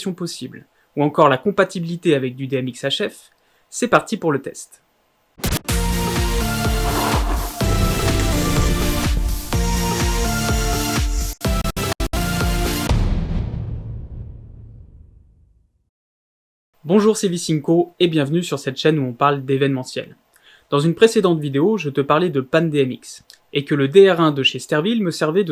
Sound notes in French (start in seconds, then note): 6.3 Scratch; 12.9 Boum